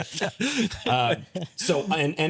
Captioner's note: laughing